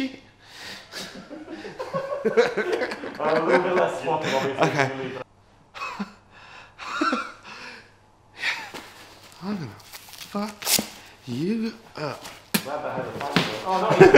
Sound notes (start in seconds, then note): 0.0 stressed, labored breathing; 0.9 background laughter; 3.6 laughs; 5.9 exasperated sigh; 13.6 laughs